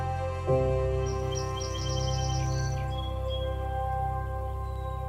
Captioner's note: birds chirping